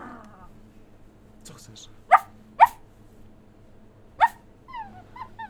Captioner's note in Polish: skomlenie